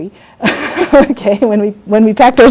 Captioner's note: laughs